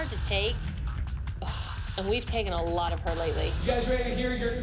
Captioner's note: scoffs